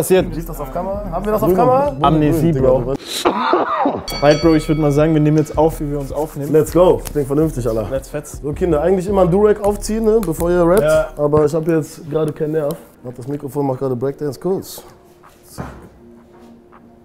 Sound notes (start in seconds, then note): 3.2 cough